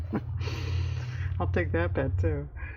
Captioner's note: laughs